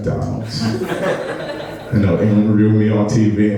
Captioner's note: laughing